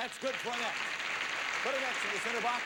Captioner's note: audience applauding